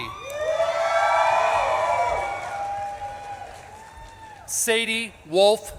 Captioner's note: audience claps and cheers